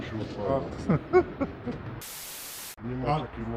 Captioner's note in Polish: śmiech